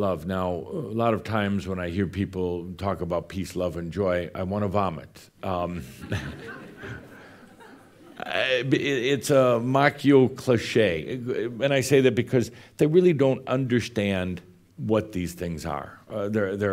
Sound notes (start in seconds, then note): 5.9 some chuckles